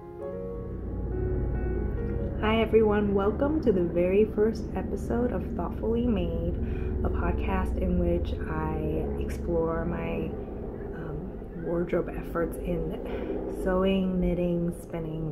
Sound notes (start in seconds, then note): 1.7 helicopter noise